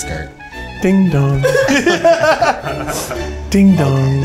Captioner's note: men laughing